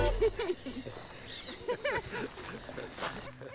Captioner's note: guitar music; laughter